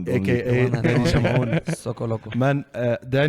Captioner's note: laughs